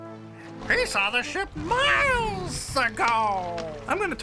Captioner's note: lion roaring